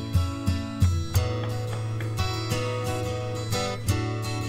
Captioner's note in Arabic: يطرق